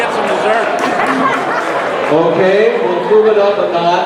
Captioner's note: audience member clapping; crowd laughing